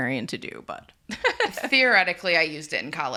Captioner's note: laughs